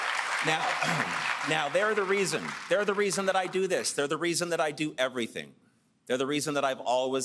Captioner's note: cheers and Applause